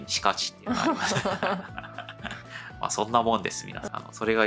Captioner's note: laughs